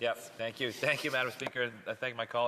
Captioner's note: laughter